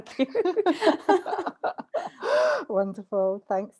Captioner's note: laughter